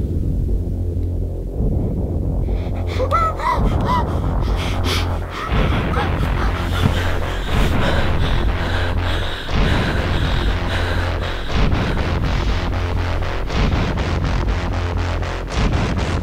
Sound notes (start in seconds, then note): 2.9 muffled yelling